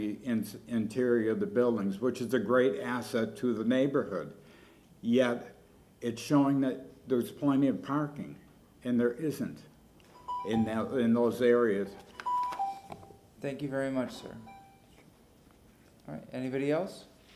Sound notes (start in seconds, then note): 14.3 bell sounds